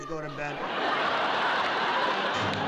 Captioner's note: laughter